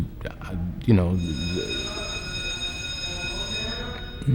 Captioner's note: bell ringing